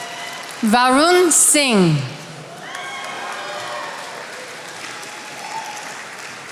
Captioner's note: attendees applauding